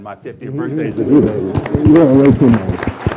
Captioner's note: clapping